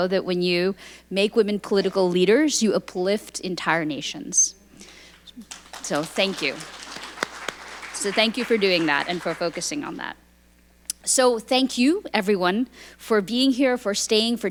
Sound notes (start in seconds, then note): 6.9 audience applauding